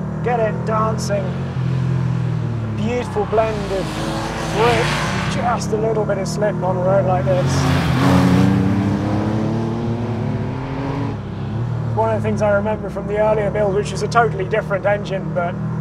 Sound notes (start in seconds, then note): 0.0 engine rumbles; 4.4 engine roars; 8.1 engine roars